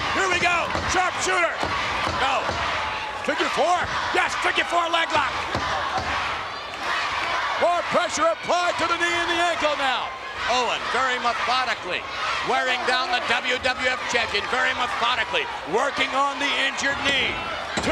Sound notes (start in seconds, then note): 5.8 spectators cheering